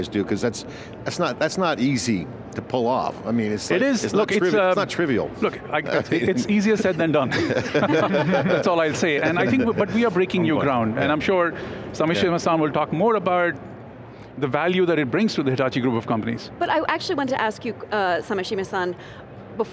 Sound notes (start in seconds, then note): 5.4 hosts laughing